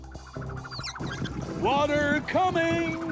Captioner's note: faucet squeaks